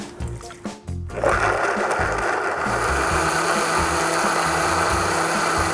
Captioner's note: whirring and grinding